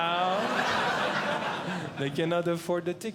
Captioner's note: audience Laughing